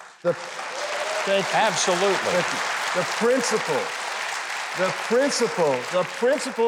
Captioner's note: audience cheering